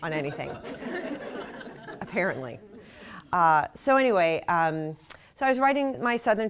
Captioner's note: laughter